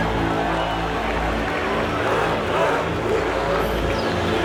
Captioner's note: engines rev